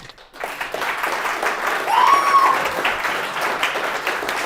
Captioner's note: applause